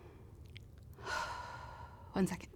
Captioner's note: sighs